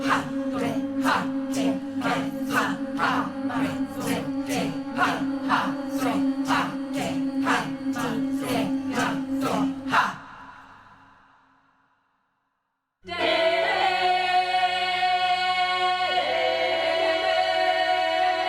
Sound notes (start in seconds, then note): 13.1 all vocalizing